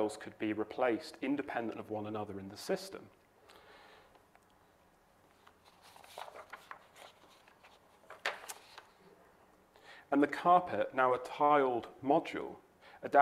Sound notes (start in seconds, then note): 5.2 papers rustling